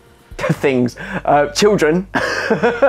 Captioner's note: laughs